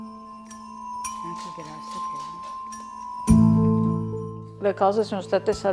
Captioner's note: speaking in foreign language